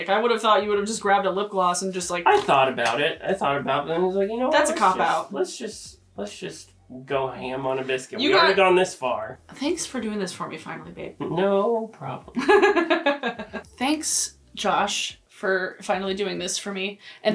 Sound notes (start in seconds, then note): 12.4 laughing